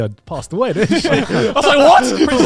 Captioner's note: laughs